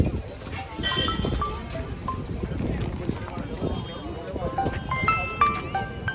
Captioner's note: phone Ringing